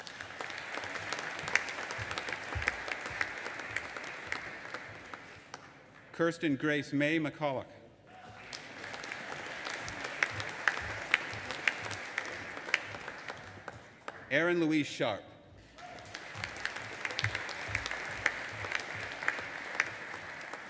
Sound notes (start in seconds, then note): 0.0 audience applauding; 8.2 audience applauding and cheering; 15.7 audience applauding and cheering